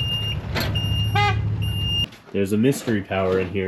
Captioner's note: horn honks